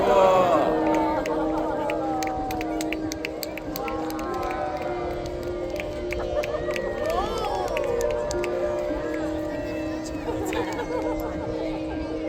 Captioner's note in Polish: Aplauz